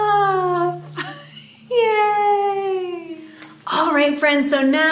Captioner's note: chuckling